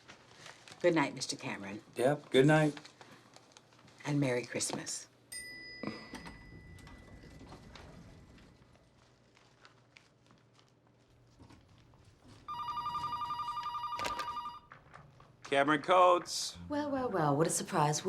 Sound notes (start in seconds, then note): 12.4 telephone rings